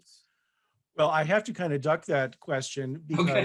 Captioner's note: laughs